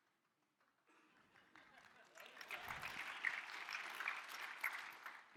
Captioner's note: applause